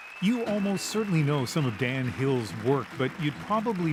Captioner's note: applause